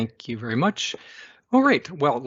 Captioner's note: inhales